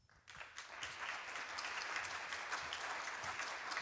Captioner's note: applause